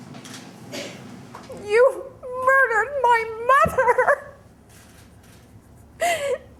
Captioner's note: sobbing